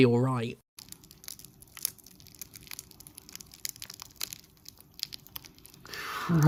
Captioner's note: cornflake tearing crackle sounds